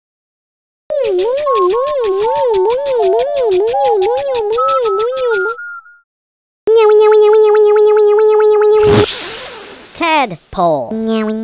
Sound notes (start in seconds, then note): 1.1 beeps and shaking noises; 6.7 hydraulics sound